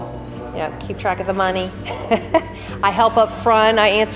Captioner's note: laughs